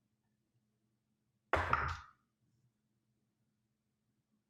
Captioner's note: dice rolls